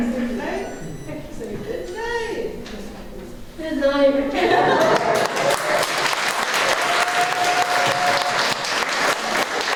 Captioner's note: laughter and applause